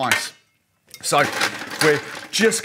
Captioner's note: scooping ice